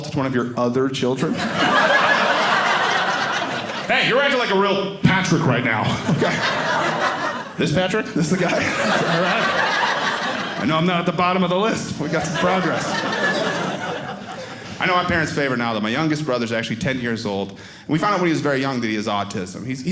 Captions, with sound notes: of your other children-- (audience laughing) hey, you're acting like a real Patrick right now, OK? (audience laughing) This Patrick? This the guy? Is that right? I know I'm not at the bottom of the list. We got some progress. I know my parents' favorite, now that my youngest brother is actually 10 years old. We found out when he was very young that he has autism.